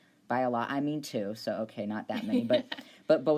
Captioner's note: laughs